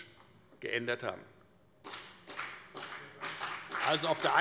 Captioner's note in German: Beifall bei der FDP